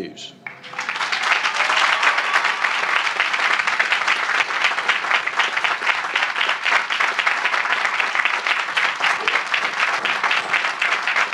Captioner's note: applause